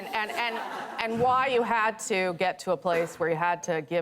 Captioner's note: laughter